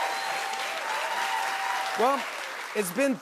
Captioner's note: cheers and applause